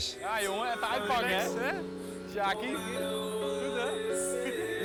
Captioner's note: speaking in foreign language